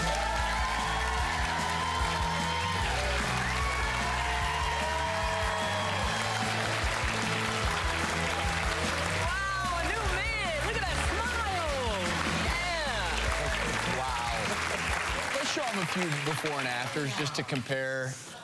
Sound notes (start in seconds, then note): 2.8 crowd cheering; 3.3 applause